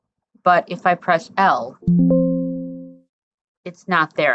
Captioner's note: ding from screen reader